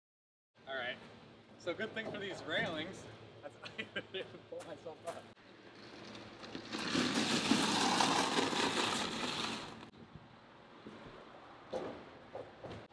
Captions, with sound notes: All right, so good thing for these railings. (laughing) Pull myself up. (gravel crackling)